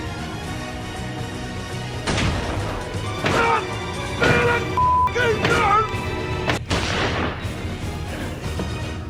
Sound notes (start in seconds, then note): 2.0 gunshot; 3.0 angrily yelling; 6.4 gunshot